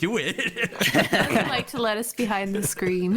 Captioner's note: all laughter